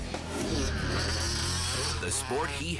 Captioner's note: engine revving